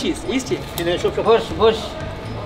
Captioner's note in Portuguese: Falas em árabe